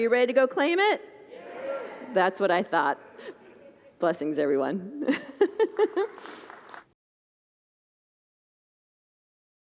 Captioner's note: laughs; congregants – loudly: “Yes!”